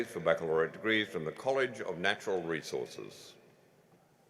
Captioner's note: none